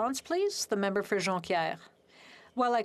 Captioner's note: speaking French